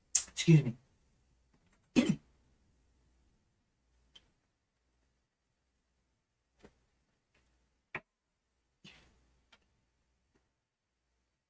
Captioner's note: coughs